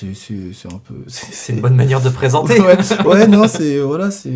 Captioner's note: laughing